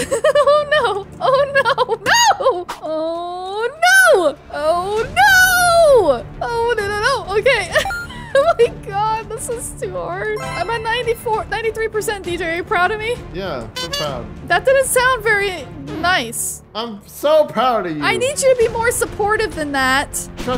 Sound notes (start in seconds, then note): 0.0 laughing; 7.6 laughing